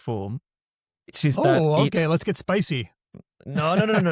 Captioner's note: laughs